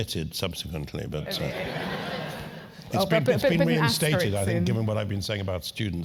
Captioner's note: laugh